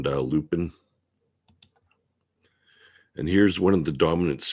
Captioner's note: mouse clicking